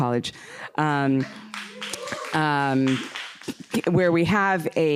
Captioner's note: applause